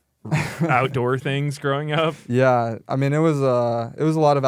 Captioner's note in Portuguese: risos